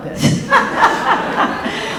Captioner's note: audience laughing